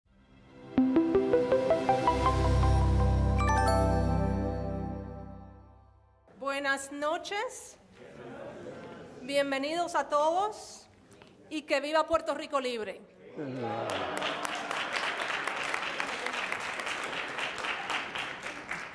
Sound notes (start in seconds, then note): 0.5 pleasant music; 6.4 speaks in Spanish; 8.0 audience responds in Spanish; 9.2 continues to speak in Spanish; 13.4 audience applauds